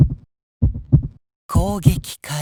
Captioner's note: silence